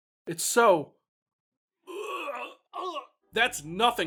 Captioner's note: throws up